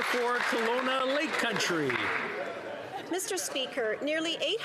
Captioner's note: applause